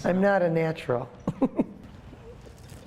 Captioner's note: laughs